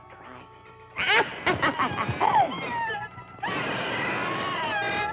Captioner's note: cackling; bird squawking